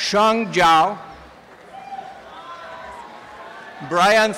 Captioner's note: applause and cheering